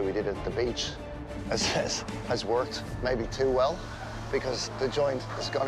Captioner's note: laughs